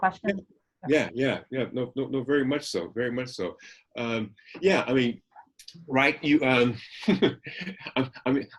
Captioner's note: laughing to himself